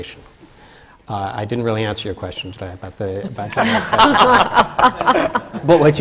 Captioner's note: laughter from the panel